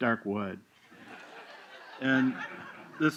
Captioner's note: laughter